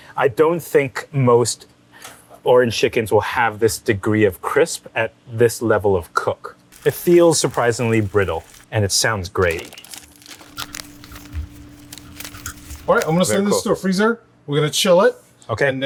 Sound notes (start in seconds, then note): 9.4 chicken cracking